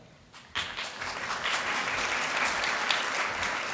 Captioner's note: applause